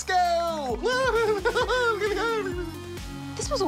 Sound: laughs delightedly; laughs

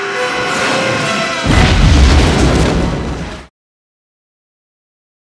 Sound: fireworks explode

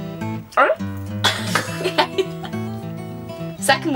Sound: laughs

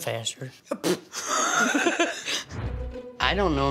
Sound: blows raspberry

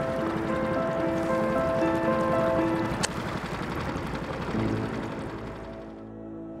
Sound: boat engine revving; piano instrumental music

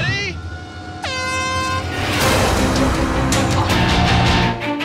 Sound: horn blares

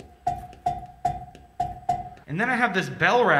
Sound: cowbell clanking

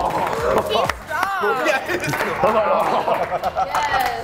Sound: laugh

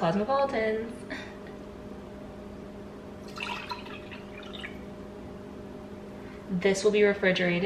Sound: pouring drink

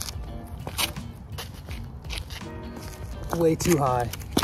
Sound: footsteps

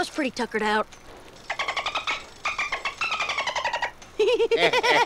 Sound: clicking like a dolphin; laughing

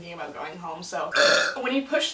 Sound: burps

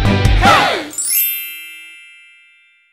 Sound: chimes

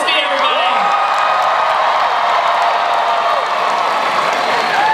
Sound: cheering, applause

